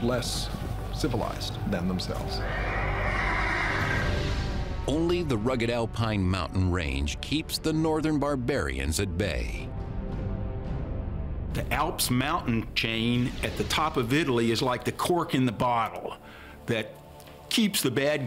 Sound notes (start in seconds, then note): 2.4 horse neighing